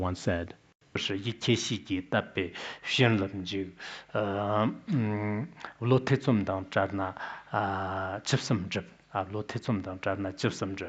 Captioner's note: citing scripture in Tibetan